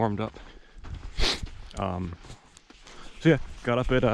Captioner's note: footsteps thumping; sniffing